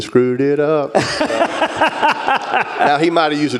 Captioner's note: laughter